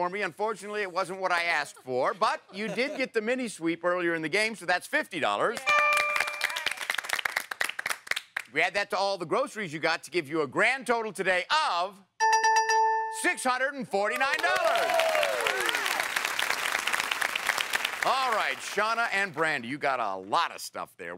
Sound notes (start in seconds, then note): 14.1 applause